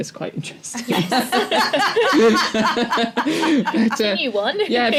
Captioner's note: laughter